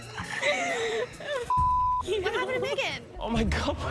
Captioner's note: weeps; indistinct chatter